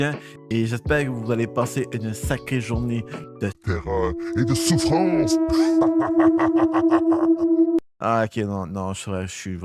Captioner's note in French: rire malaisant